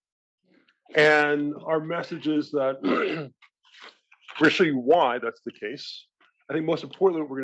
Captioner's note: cough